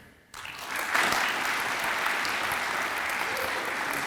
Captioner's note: audience applauds